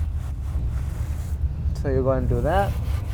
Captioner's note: brushing sound